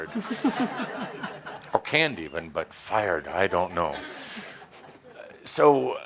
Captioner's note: laughter